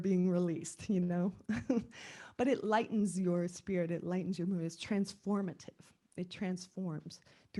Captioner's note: laugh